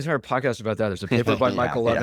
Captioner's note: laughs